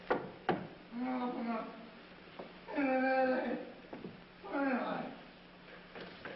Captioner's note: moaning